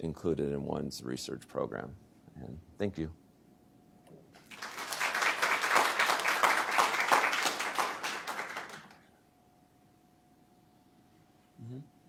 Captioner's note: applause